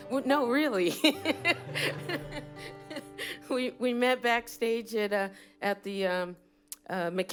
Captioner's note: laughter